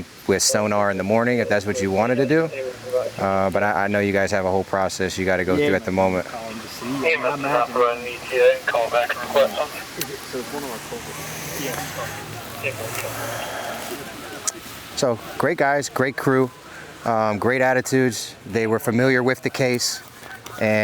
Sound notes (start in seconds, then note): 7.1 chatter; 9.1 voice Over Radio; 11.0 chatter